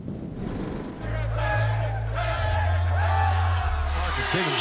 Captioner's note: people cheering